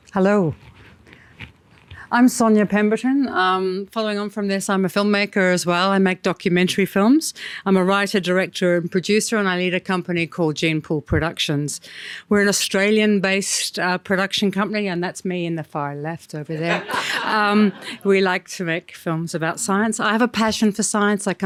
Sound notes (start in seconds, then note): 16.6 audience laughing